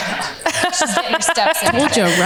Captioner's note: laughs